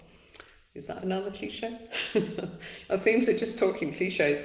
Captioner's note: laughs